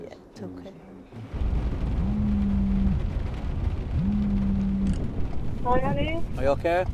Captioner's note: engine rumbling; phone vibrating